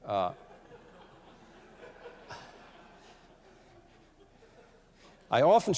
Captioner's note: laughter